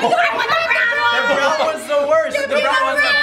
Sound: arguing

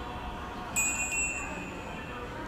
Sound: door bell sound

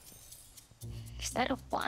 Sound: sighs

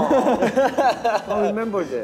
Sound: laughs

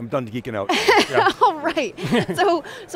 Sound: laughing

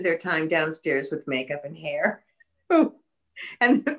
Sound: laughing

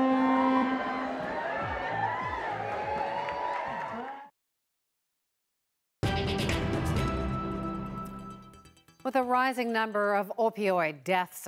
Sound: horn blares

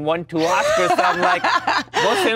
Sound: Gal laughs

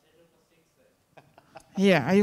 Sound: faintly speaking

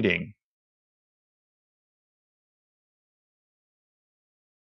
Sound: silence

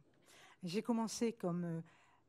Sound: speaking french

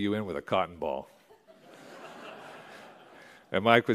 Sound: laughter

